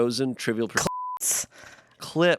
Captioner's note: beep